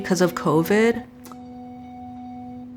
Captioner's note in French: claquement de langue